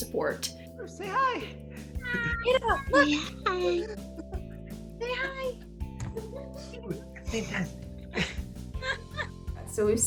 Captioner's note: laughing